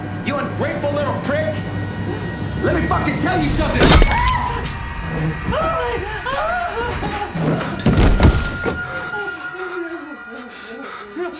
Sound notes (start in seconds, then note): 3.6 hammer cracks; 7.4 body thuds